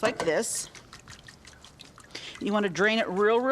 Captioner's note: water dripping